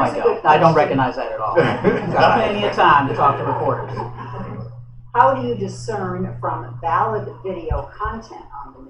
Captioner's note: laughter